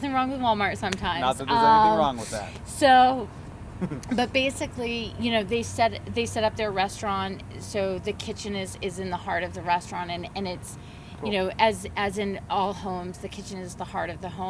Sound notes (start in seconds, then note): 3.8 giggles